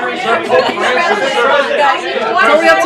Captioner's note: laughs